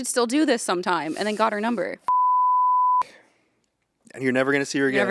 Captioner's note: Ian beeping